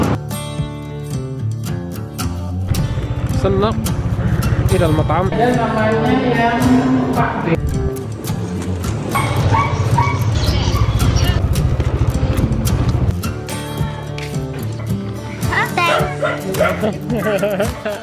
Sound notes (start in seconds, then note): 5.6 speaks Indonesian